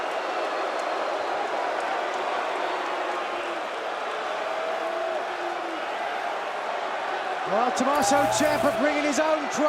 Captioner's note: crowd cheering